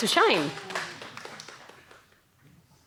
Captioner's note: applause